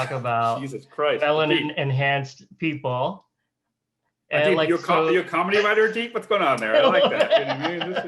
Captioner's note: both laugh